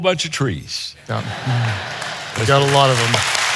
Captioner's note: audience laughing